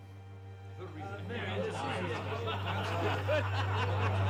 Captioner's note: group chattering